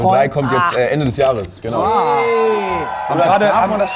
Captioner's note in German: Jubel, Applaus